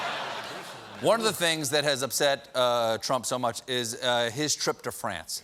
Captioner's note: laughter